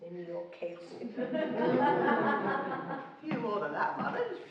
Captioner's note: laughing